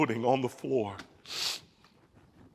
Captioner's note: sniffs